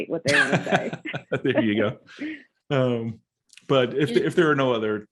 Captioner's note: laughing